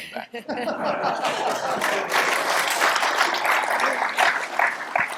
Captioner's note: laugh; applause